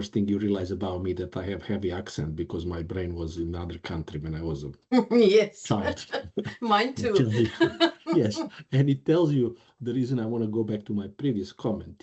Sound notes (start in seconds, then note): 5.7 lauging